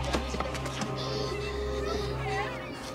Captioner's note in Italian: singhiozzi